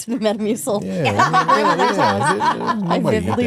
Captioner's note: Stephanie laughing